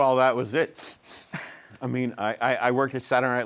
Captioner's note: sniffing